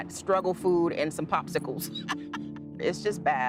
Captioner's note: laughter